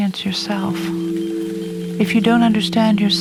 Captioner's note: rain tapping; tranquil music